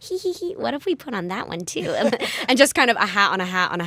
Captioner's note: laughter